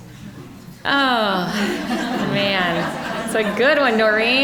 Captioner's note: audience laughing